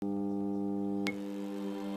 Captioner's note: logo whirring; bright music